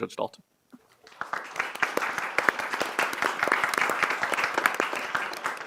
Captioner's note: audience clapping